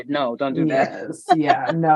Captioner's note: chuckles